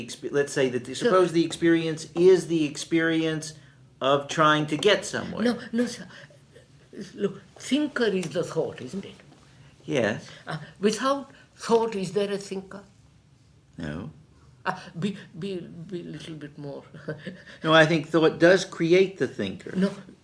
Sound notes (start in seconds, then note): 16.5 laughs